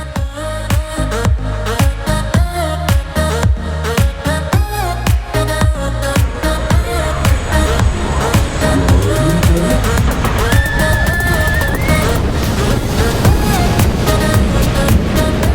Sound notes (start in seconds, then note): 0.3 electronic music; 10.4 girls scream